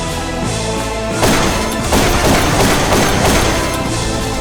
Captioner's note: pop, pop-pop-pop-pop-pop